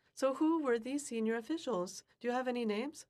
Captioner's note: speaking French